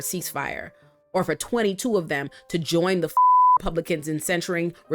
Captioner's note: beep